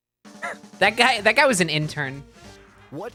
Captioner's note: laughs